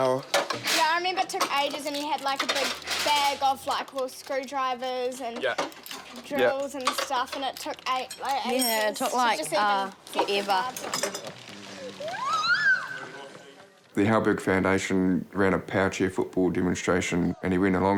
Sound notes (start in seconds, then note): 11.8 exclaims